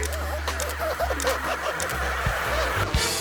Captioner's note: camera clicking; slippery metal squeaking